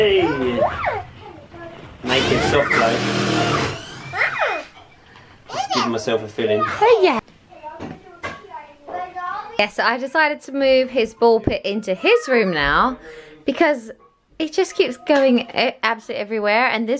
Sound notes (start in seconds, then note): 2.1 drill whirs